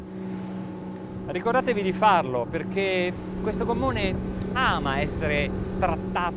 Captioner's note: speaking foreign language